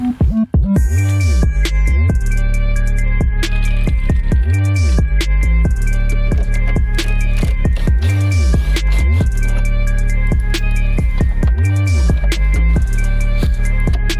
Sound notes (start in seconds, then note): 0.2 episode music; 8.1 drill whirs; 11.1 episode music